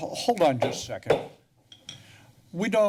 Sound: tap gavel

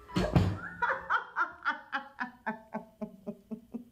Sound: Lee laughing

